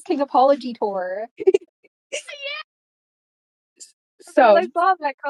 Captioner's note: giggling